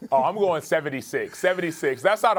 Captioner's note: laughter